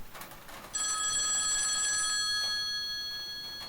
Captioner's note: phone rings